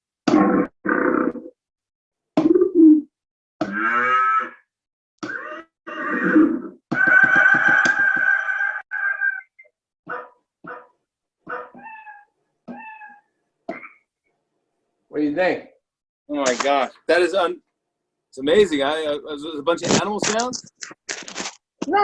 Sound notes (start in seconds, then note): 0.8 animal roars; 2.2 croak; 3.6 cow moos; 5.8 horse neighs; 10.0 dog barking; 12.7 cat meowing; 13.6 frog croaks